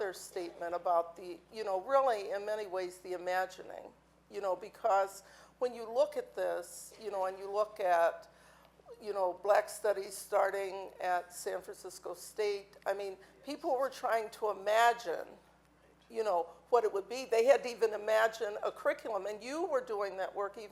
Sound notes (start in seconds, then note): none